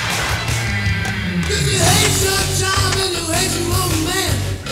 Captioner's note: none